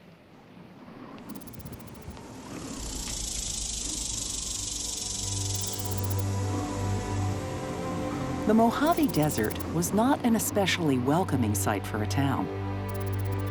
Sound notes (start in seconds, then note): 2.7 insects chirp